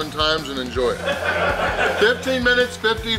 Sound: crowd laughing

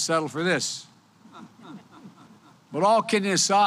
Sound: laughter

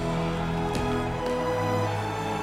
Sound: thud

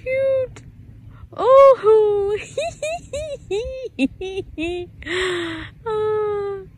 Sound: giggles with much joy

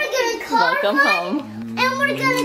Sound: lips kiss

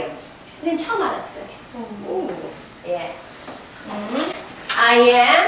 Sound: speaking foreign language

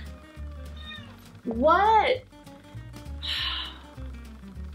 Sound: sighs

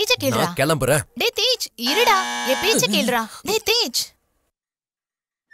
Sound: door bell rings

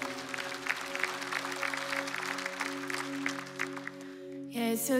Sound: applause

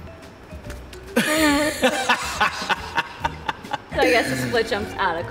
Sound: laughing

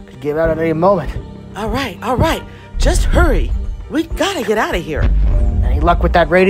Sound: stomping Sounds

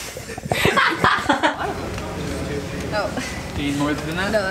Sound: laughing

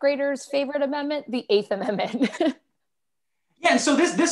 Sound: laughter

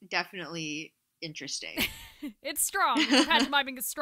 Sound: laughter

